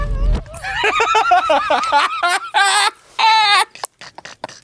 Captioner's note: wheezing; cackling; continue laughing